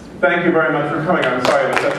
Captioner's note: applause